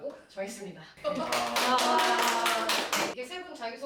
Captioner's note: applause and cheers